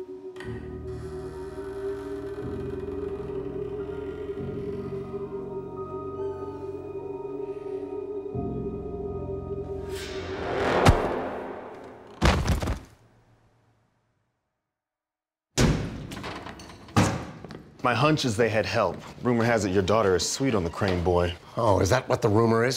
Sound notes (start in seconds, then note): 0.0 spooky noises; 10.6 thunk; 11.8 thud; 16.0 door opens